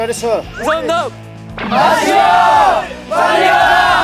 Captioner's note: there is more cheering